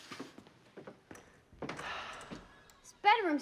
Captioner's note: sighs